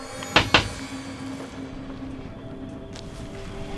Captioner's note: knocking